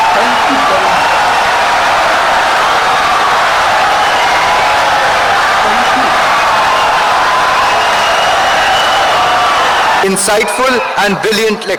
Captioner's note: wild applause and cheering for 17 seconds